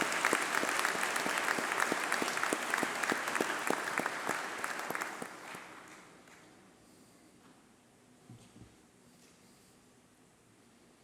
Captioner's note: applause